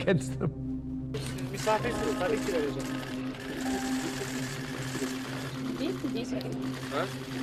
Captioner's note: camera click; people chatter indistinctly